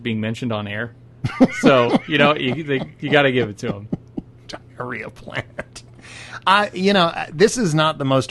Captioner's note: laughs